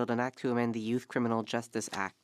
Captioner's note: speaking French